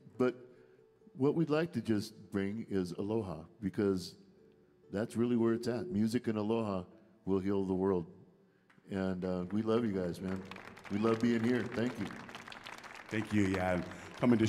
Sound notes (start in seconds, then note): 9.0 audience applauding